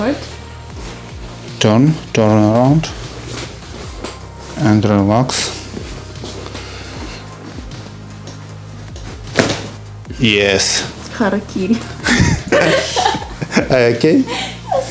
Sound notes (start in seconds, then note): 8.1 crunch of bones; 12.0 laughing